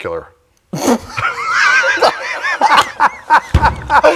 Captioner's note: both laugh